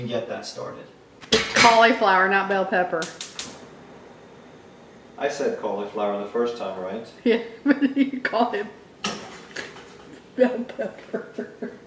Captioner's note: snort laughing